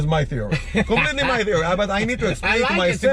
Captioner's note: laughs